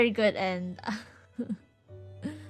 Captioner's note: sobs